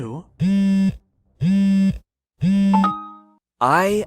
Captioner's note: phone buzzing